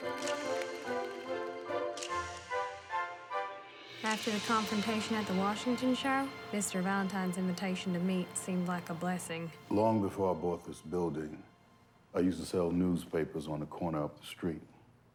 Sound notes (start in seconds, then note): 1.9 camera clicks